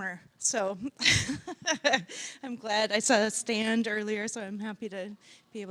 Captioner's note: laughing